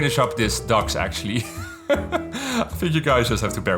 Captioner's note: laughs